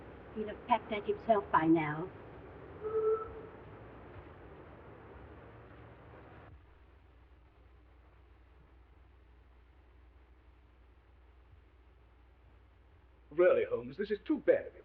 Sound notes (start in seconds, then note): 2.8 horn honking